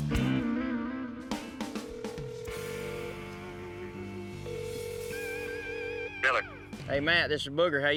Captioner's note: phone ringing